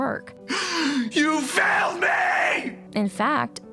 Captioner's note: screaming